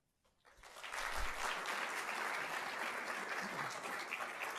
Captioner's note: applause